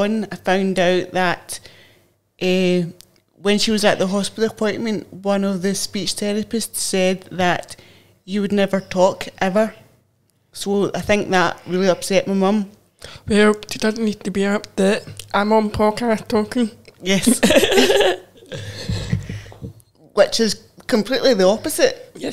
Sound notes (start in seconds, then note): 17.2 laugh